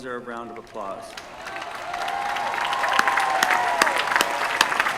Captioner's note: applause